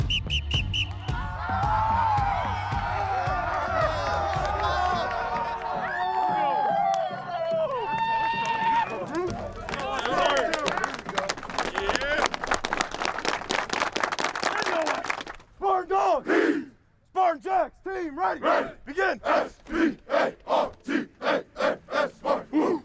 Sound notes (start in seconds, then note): 0.0 whistle blows; 1.6 players cheer; 10.1 applause